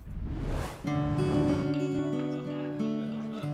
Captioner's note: whoosh